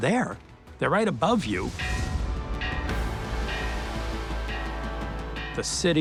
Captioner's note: dramatic music; bell ringing